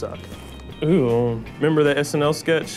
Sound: groans

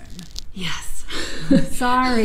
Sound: laughs

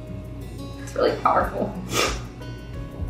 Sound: sniff

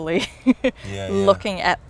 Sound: laughs

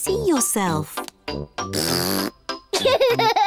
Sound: blows raspberry; giggles

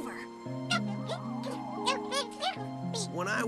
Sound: pleading Noises

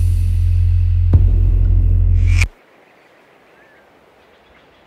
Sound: outdoor ambiance

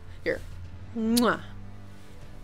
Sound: kiss

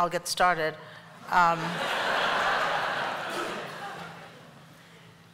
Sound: laughter

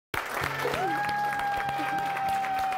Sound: cheering

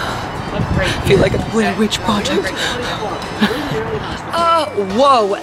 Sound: laughs

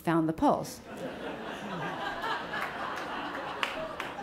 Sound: audience laughs

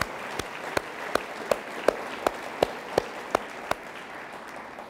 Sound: applause continues

